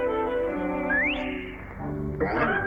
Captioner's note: whistles